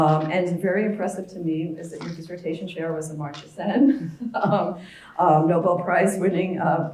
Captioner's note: laugh